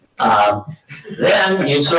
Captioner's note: audience laughing